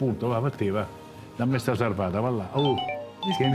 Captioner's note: phone ringing